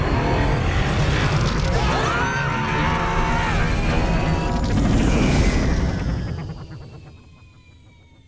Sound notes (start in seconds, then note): 0.0 screaming